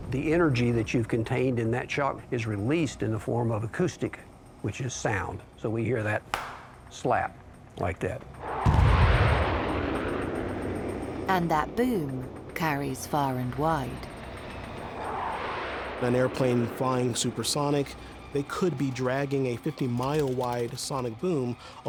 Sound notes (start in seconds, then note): 6.3 clapping; 8.6 aeroplane whooshing; 8.6 tense booming music